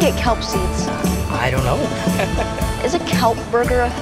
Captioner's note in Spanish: Riendo